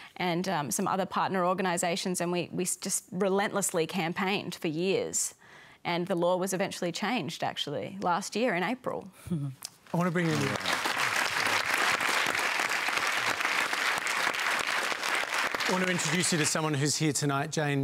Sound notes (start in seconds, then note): 10.0 applause